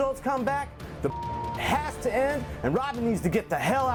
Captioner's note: beep